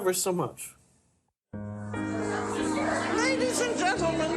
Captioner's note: lively chatter